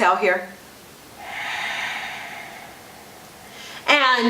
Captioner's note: exhales